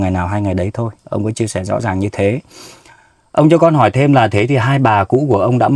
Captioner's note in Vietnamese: khịt mũi